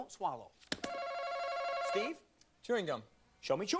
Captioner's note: alarm rings